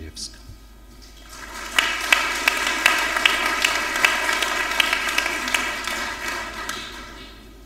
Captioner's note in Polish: oklaski